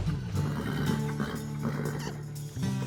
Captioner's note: horse grunts; kissing sounds